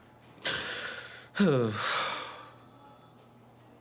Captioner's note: sighs